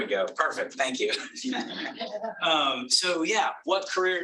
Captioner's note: laughs